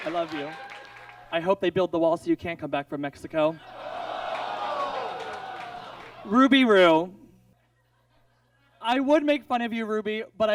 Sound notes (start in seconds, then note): 3.7 audience groans